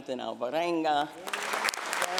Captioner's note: applause